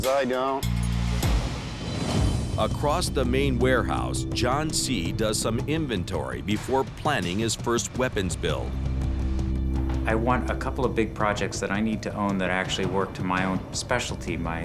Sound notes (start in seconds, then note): none